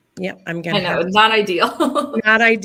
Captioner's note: laughter